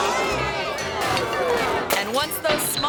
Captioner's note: audience groans; glasses clank